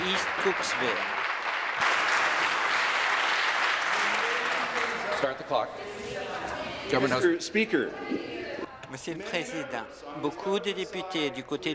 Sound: applause

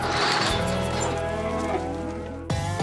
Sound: mooing

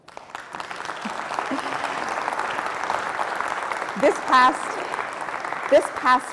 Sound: applause

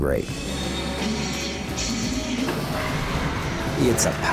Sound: hydraulic hiss, roaring

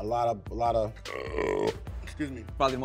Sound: man burping

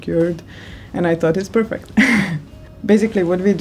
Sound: laughs

